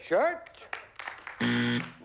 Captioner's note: buzzer